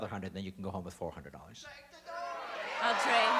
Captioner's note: audience yelling